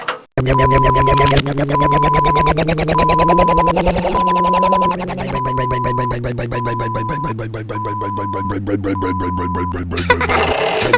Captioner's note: clicking; backup beeper